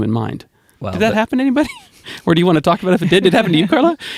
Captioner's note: laughs; laughter